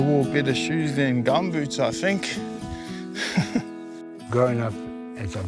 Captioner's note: laughs